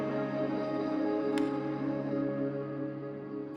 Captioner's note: music swells; light switch clicks